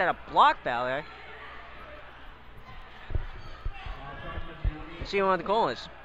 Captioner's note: crowd talking and yelling